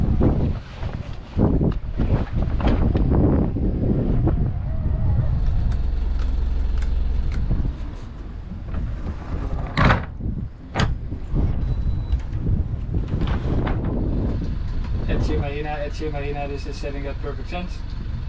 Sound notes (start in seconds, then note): 8.6 deck rattling; 13.3 wind blowing